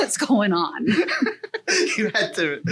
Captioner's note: laughs